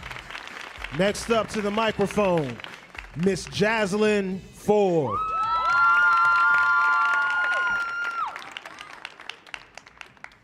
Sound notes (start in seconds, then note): 5.0 audience cheering